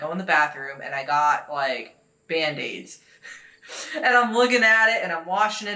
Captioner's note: laughing